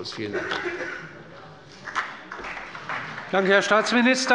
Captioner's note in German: Beifall bei der CDU und dem BÜNDNIS 90/DIE GRÜNEN